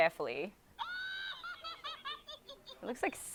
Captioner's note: Elmo laughing hysterically